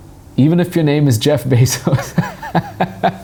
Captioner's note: laughs